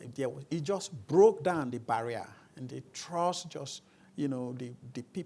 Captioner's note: none